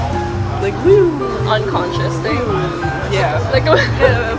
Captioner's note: weeow